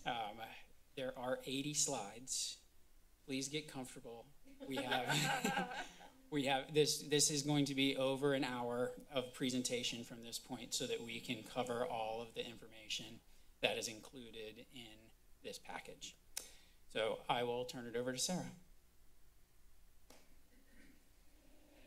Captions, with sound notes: Uhm, there are 80 slides. Please get comfortable. We have... [laughter] - We have this- this is going to be over an hour of presentation from this point so that we can cover all of the information that is included in this package. So, I will turn it over to Sarah.